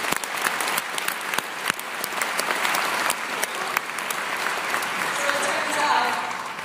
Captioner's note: applause